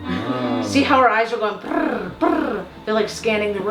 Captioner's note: purrs